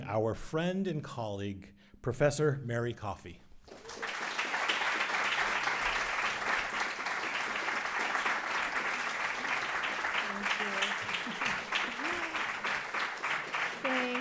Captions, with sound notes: our friend and colleague, Professor Mary Coffey. (audience applauds) - Thank you. (chuckles)